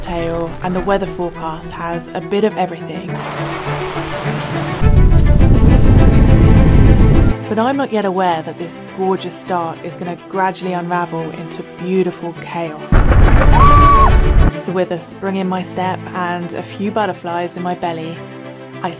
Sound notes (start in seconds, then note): 13.3 girlish scream